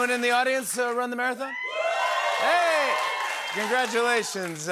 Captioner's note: cheers and applause